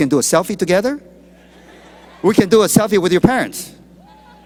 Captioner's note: laughter